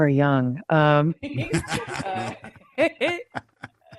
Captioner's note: both laugh